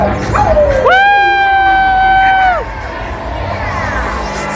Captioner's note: cheering